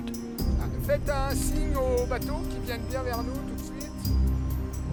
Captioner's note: speaking French